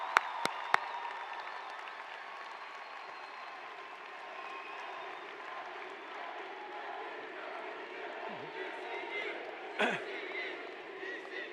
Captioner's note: cheering